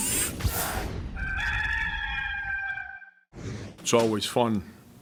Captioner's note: rooster crow